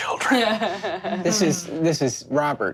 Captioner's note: laughs